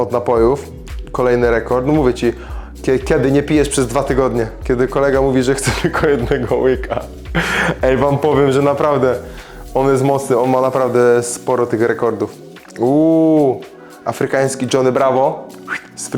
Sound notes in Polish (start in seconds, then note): 5.6 śmiech